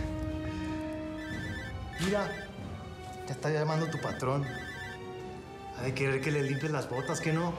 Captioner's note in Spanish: suena un celular